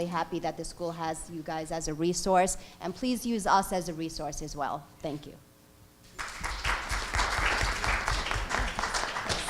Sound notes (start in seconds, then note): 6.1 applause